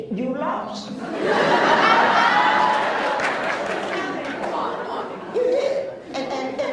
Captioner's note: laughs